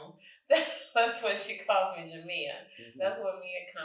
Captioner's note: chuckles